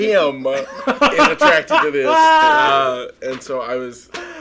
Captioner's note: laughing